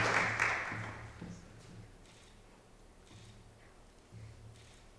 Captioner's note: camera clicks